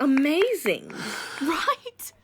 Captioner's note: sighs in relief